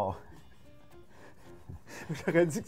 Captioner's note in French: rire